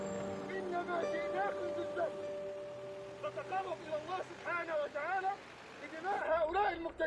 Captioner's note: man on TV